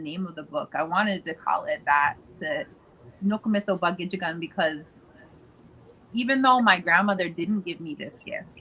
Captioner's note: speaking Ojibwe